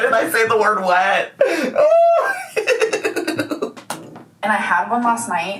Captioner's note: laughing